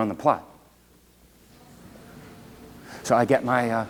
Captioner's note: Donut shop background sounds